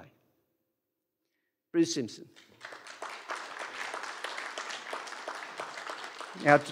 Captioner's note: applause